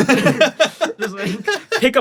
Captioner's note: laughs